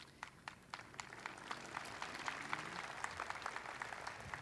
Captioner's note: audience applauding